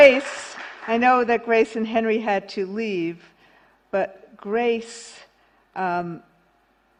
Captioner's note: applause